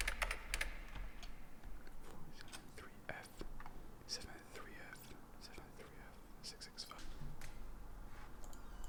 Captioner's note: whispers